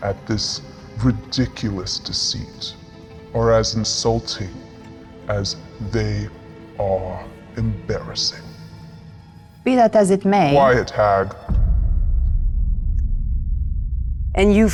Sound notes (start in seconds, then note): none